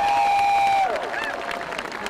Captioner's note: applause